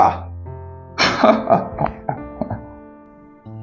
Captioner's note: laughs